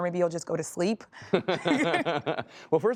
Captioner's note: laughter